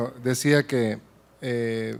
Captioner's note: speaking spanish